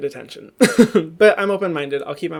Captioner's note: laughs